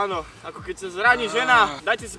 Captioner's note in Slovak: vzdychá, ako vždy